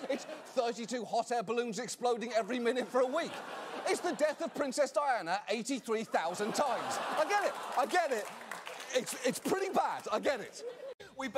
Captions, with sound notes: It's thirty-two hot-air-balloons exploding every minute for a week! It's the death of Princess Diana 83,000 times! (AUDIENCE GROANS) I get it, I get it, it's- it's pretty bad, I get it.